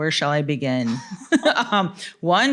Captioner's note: laughter